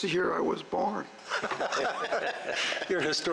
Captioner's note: audience laugh